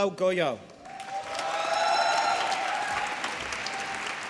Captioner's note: applause